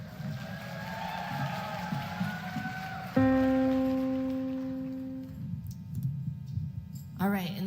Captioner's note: applause